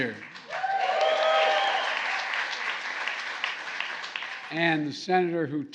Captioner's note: applause